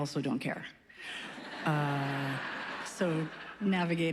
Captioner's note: laughs